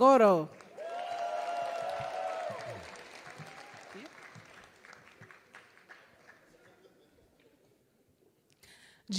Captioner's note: applause